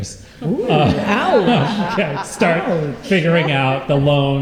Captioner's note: laughter